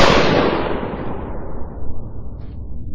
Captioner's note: gunshot